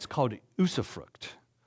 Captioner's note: none